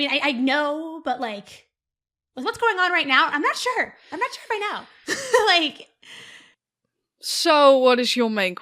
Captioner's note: laughs